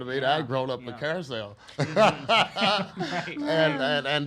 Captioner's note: laughs